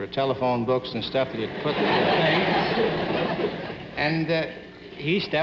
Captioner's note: audience laughing